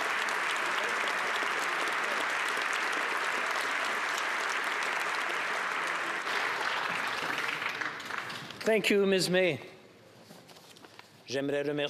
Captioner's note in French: applaudissements